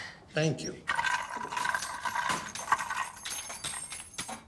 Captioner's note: keys clattering